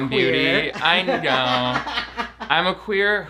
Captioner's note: laughs